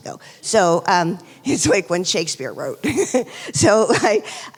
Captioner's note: laughs